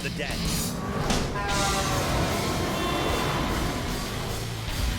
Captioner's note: cars rev; car horns honk